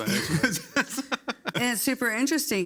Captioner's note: people laugh